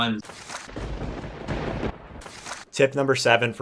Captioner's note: thunder rumbling